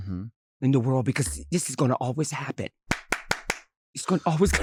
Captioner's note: clapping